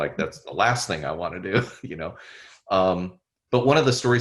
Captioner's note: chuckles